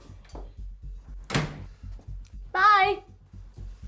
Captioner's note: door closes